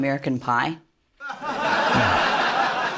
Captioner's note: laughter